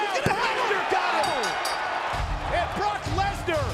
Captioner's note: bell ringing